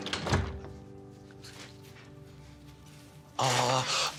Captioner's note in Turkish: Kapı kapama sesi